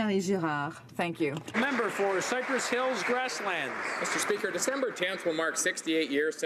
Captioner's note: speaking French